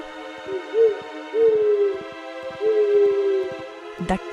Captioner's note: owl Hoot